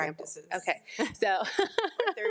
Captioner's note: laughs